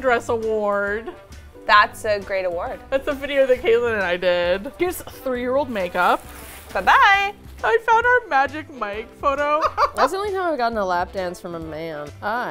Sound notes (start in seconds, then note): 6.7 cheerfully